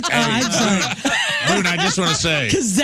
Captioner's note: laughing